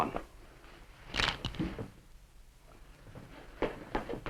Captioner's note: knucles crack